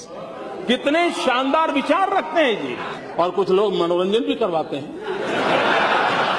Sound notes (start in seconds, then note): 4.8 crowd laughing